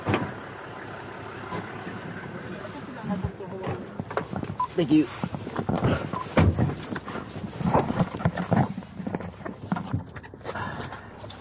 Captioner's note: radio noises